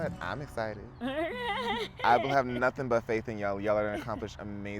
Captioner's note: laughs